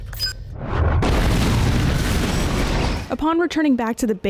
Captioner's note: explosion